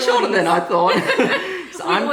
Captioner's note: laughter